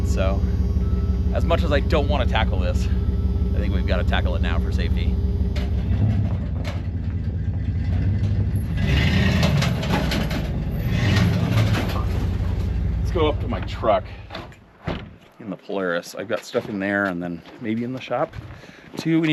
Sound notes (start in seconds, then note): 6.2 engine rumbling